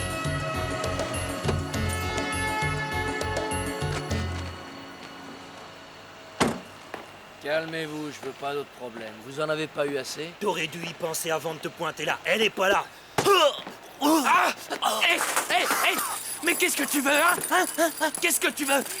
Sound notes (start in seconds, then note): 14.0 grunts